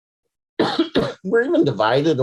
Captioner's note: coughs